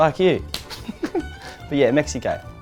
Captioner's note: chuckles